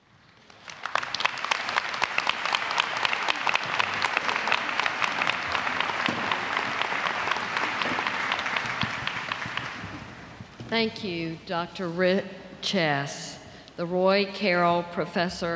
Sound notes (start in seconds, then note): 0.3 applause